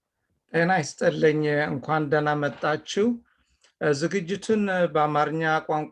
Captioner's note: man speaking in foreign language